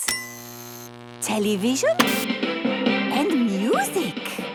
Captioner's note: light bulb buzzing; TV static, show music